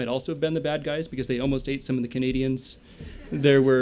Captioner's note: laughter